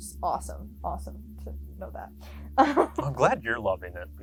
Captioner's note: laughs